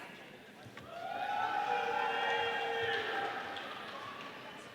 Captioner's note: audience cheering